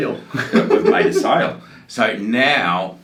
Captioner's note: laughs